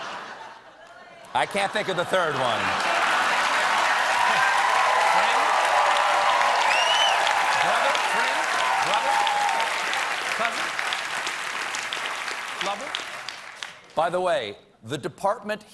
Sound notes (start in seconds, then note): 2.2 cheers and applause